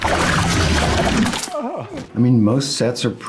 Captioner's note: Beetlejuice's face sloshing; Otho groaning